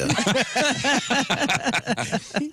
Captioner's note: laughing